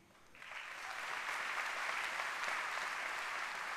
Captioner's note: applause